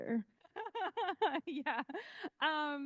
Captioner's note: laughing